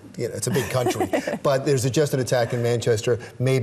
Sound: laughs

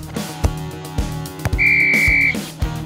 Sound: whistle

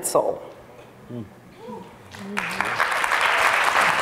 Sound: applauds

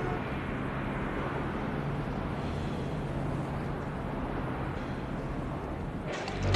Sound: horn blowing

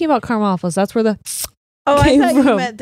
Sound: slurps

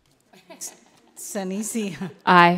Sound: attendees laughing

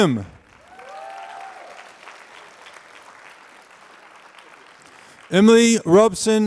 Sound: applause

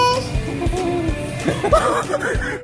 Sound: laughing

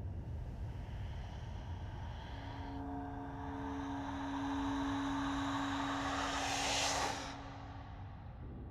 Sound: whooshing sound crescendos

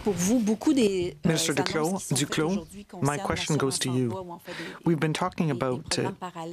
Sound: speaking French

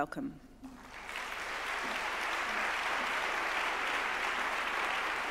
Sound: audience claps

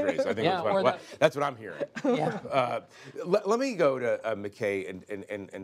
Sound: laughter

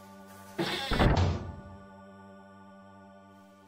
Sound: heavy door slams shut

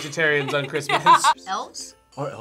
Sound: laughs

